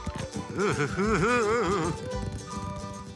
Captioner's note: shudders